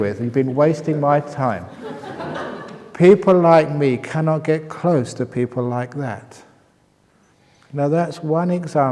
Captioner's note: laughter